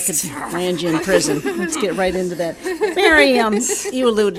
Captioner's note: audience laughing